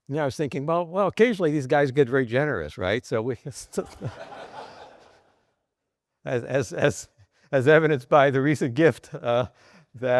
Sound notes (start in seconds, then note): 3.8 both laughing